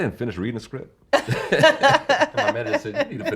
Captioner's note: laughing